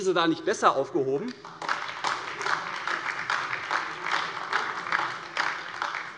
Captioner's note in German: Beifall AfD